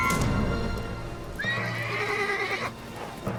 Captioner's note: horse whinnies; birds chirping